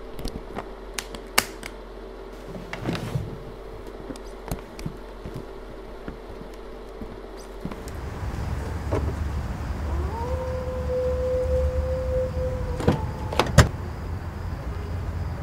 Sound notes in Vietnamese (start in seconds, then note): 10.0 sói hú